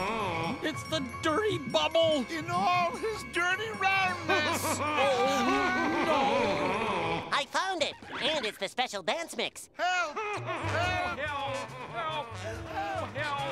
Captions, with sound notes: - It's the Dirty Bubble! - In all his dirty roundness! [screaming] No! I found it, and it's the special dance mix! - Help, help! - No, help, help!